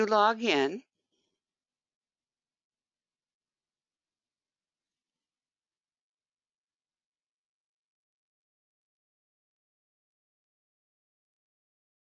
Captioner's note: 18 seconds pause